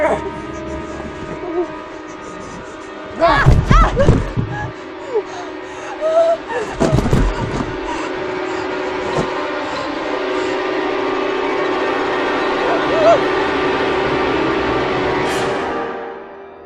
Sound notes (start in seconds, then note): 0.1 Gio groans; 3.1 Andrea falls and screams; 6.4 Andrea gasping; 9.0 suspenseful music